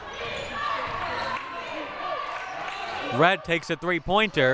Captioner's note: clapping